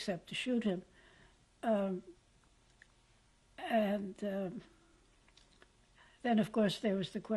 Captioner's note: pauses for 3 seconds